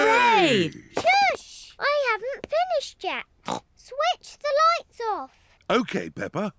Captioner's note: snorts